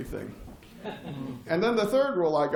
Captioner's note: laughter